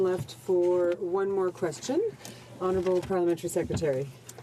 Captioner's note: speaking in french